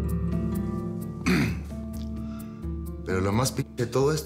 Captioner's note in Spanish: carraspea